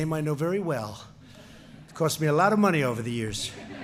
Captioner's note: laughter